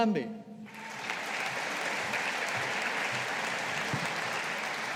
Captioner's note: audience applauding